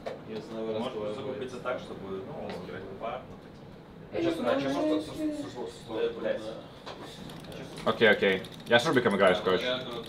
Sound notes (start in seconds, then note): 1.2 people speaking in foreign language